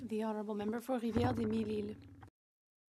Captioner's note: speaking French